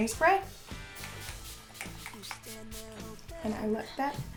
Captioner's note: spraying